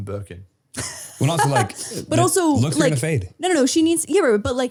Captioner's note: laughing